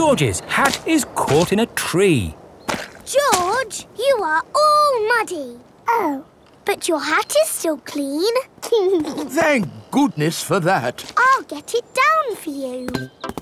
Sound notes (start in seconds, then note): 8.8 giggles